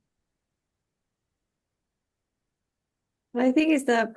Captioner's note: silence